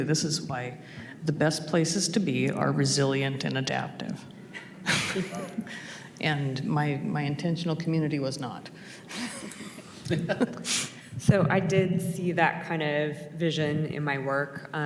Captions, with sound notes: This is why the best places to be are resilient and adaptive. (chuckles) And my intentional community was not. (chuckles) - So, I did see that kind of vision in my work.